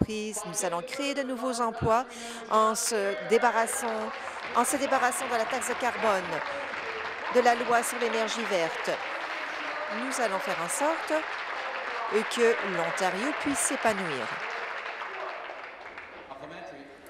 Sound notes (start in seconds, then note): 9.6 applause